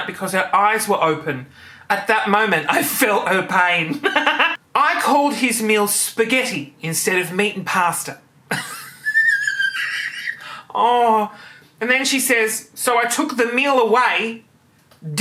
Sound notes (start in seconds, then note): 8.5 laughing